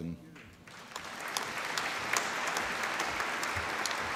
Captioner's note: applause